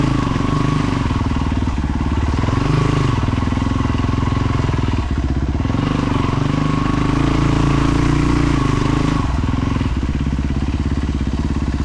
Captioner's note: engine revving